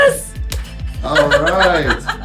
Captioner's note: laughs